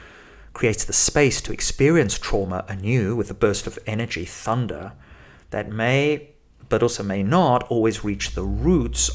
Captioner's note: thunder